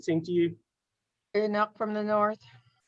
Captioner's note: faintly speaking